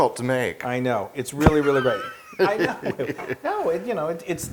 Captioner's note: laugh